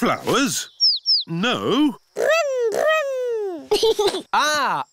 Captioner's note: giggles